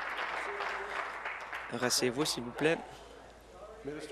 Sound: applause

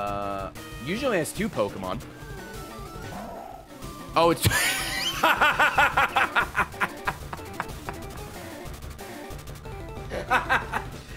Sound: laughs

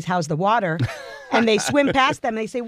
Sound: laugh

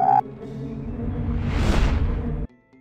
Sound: w-woosh

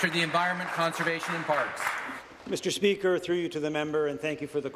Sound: applause

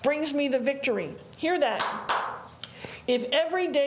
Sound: claps

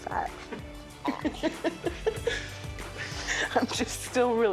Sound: laughing

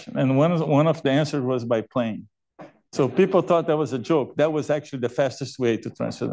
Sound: laughter

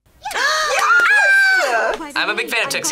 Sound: squeal

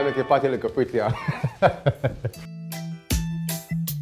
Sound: laughing; reggae music

